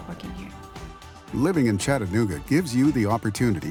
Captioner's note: voiceover